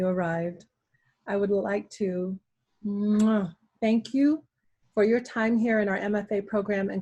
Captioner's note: kissing